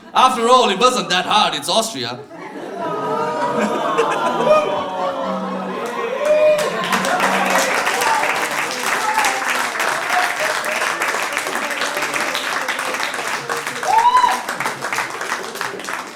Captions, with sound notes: After all, it wasn't that hard, it's Austria. [Audience groans] [Laughter] [Applause] [Applause]